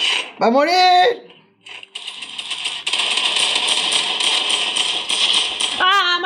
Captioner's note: step sounds; shooting sounds